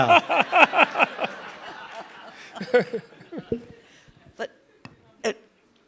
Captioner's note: participants laugh